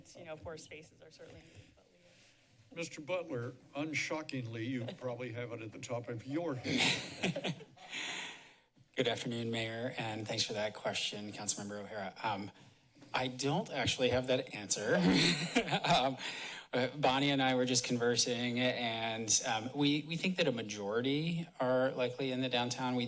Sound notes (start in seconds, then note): 6.7 laughter; 15.0 laugh